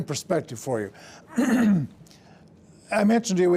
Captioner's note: throat clearing